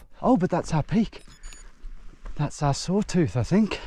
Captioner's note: watch beeping